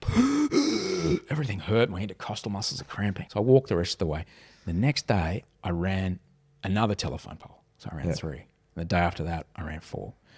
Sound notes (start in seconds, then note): 0.0 gasping